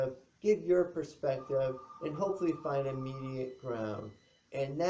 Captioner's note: phone rings